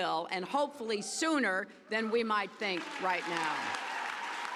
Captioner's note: cheers and applause